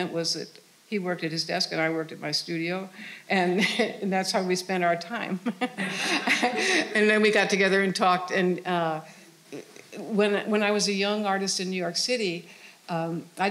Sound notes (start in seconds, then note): 5.4 all laughing